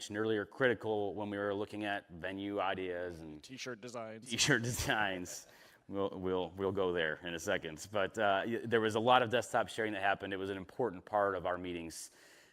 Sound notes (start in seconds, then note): 4.3 laughter